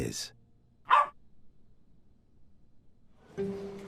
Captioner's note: barks